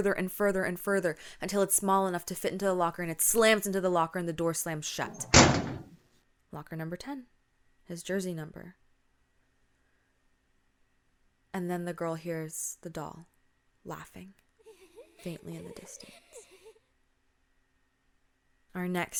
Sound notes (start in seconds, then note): 5.0 locker shutting sound; 14.6 creepy laughing sound